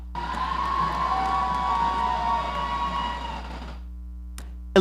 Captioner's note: audience cheering